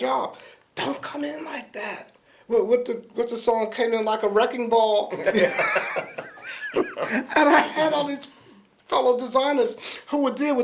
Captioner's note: laughter